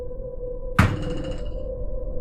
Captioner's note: door hits wall